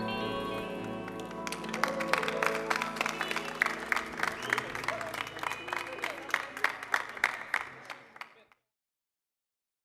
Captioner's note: applause